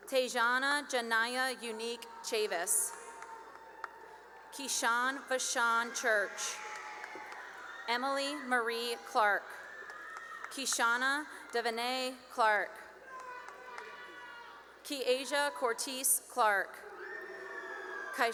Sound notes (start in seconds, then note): 2.6 cheering and applause; 6.1 cheering and applause; 8.9 cheering and applause; 12.4 cheering and applause; 16.8 cheering and applause